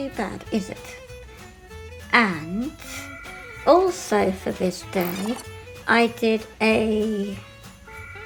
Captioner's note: excuse my telephone ringing